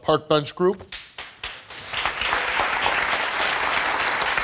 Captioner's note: crowd applauding